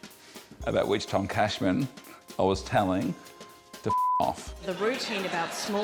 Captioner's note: beep!